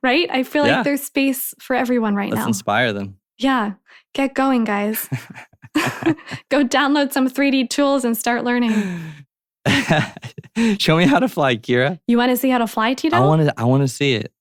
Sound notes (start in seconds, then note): 4.9 laughter; 9.7 laughs